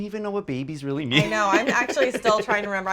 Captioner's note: laughs